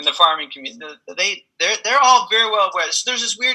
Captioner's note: laughs